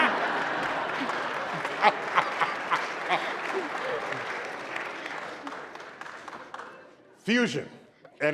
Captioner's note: laughter and applause